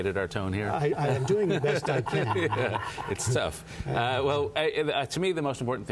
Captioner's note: laughter